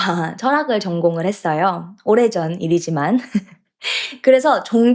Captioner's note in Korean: 웃음